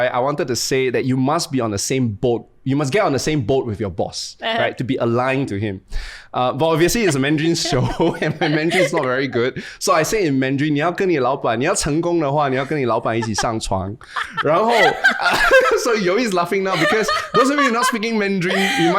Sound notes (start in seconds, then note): 10.7 speaks in Mandarin; 13.0 laughing